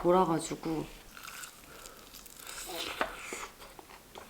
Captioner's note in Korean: 츄릅